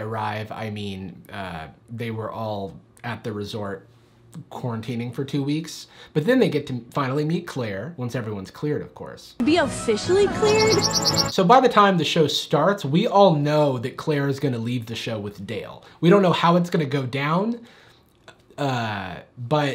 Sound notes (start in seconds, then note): 10.0 birds chirp